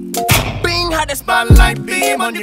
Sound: gunshot

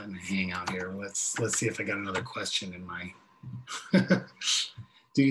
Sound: laughs

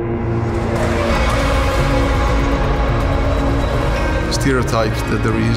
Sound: engine revving

